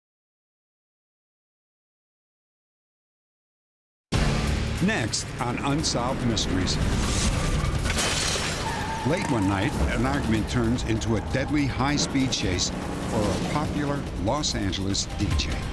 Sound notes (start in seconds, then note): 6.7 traffic sounds